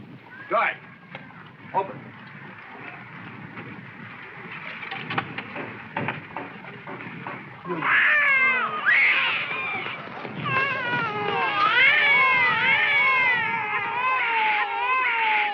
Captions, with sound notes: Guard, open it. (children crying)